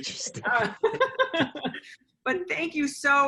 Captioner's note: laughter